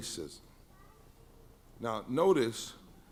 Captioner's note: baby in audience mumbles